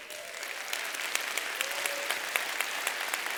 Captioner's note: applause